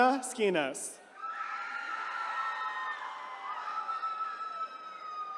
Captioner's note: attendees cheering